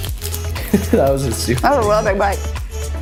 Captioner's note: chuckles